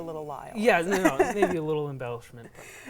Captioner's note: laughing